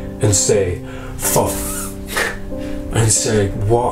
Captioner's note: laughing